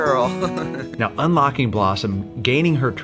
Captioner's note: laughs